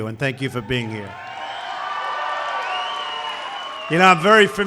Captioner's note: applause